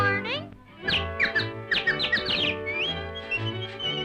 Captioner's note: birds tweeting; Felix whistling